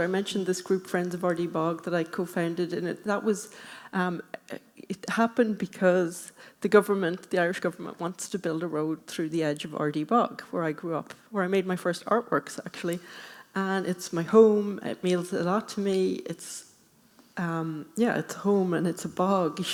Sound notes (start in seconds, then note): none